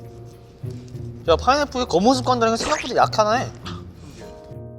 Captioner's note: munching on burgers again